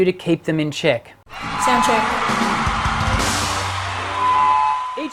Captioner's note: audience cheering